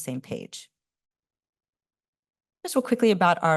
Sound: pause

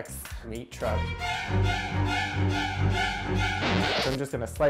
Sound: haunting music; record scratches

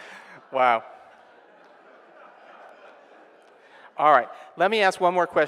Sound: audience laughing

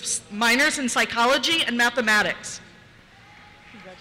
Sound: cheers

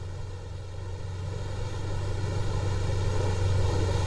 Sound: boat engine

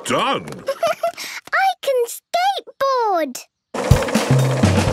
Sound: giggles

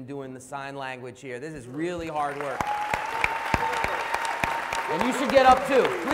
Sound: applause

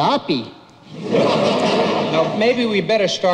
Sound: audience laughs

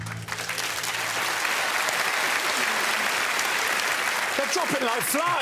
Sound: crowd applauds and cheers

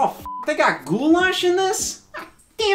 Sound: beep

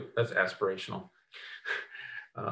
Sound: laughs

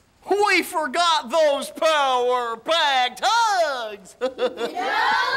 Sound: laughs

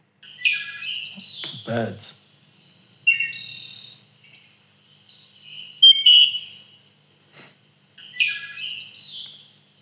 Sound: bird sounds

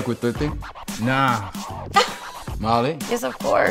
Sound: laugh

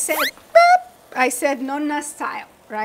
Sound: object squeaks

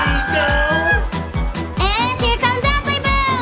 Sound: sceaming

